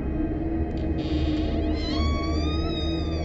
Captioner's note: door creaking